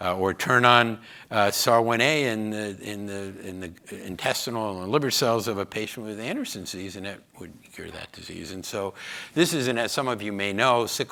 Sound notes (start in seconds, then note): none